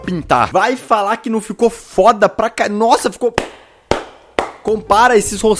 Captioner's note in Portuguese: aplausos